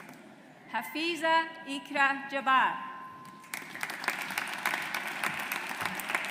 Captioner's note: audience applauds